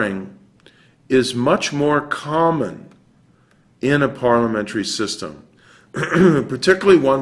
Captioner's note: cough